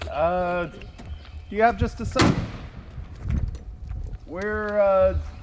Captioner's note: toolbox clangs on the ground; bonnet slams closed